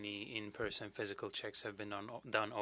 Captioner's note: speaking French